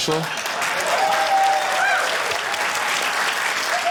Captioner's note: cheering, applause